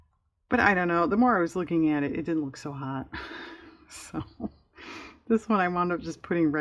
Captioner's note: laughs